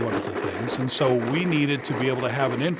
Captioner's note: blender whizzing